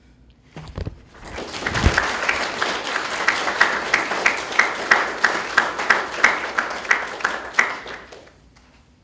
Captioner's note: graduates Clapping